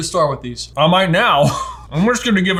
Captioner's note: laughs